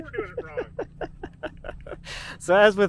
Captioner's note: laughing